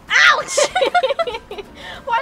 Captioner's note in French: rires